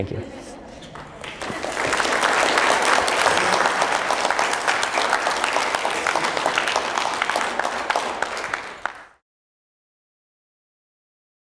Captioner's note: applause